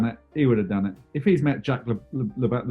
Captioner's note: stammers